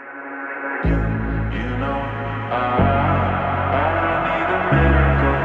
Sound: echoing

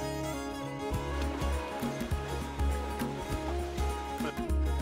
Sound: water flows

